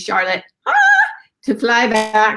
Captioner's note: squeals